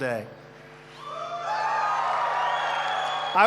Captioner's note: applause